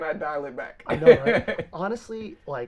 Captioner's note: laughs